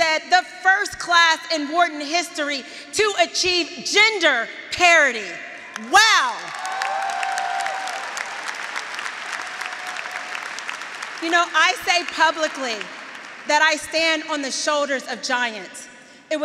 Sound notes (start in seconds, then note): 6.2 graduates cheering; 6.4 graduates applauding